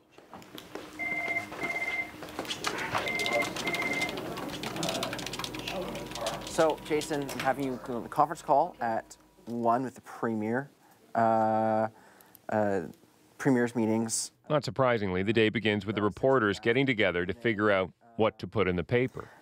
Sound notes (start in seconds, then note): 7.8 phone ringing